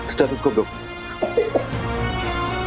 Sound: Bunty coughing

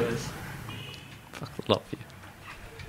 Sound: laughing

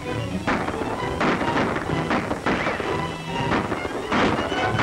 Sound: gun shots

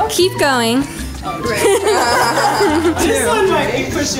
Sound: laughing

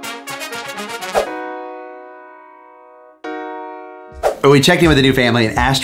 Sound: screen swooshes

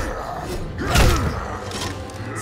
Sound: grunting

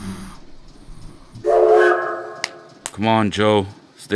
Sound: snoring; train horn

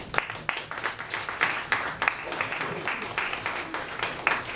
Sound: audience applauds

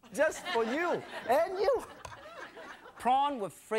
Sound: laughing

